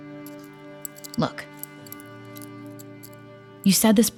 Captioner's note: jewelry sounds